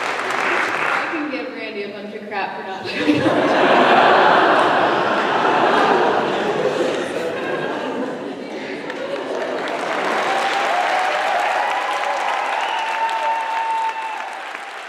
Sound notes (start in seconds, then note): 2.8 laughter; 8.7 applause